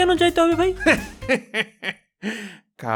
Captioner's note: laughter